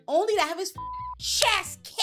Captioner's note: beep